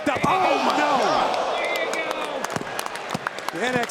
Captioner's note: crowd exclaims